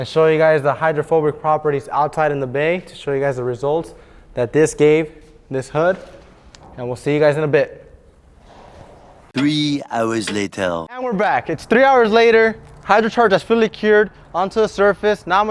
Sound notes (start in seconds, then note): 9.4 male Voice